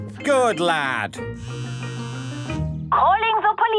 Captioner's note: phone ringing